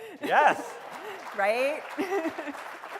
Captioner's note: applause